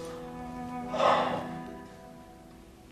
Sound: deep breath

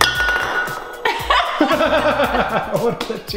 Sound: laughter

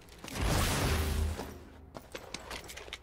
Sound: footsteps

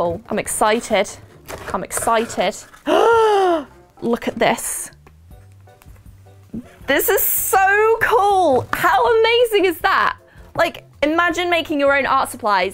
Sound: gasp

